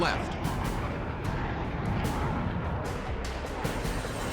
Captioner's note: jet engine noises